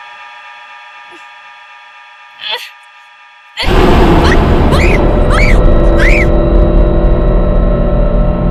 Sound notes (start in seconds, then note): 2.4 Tiffany grunting; 3.6 screaming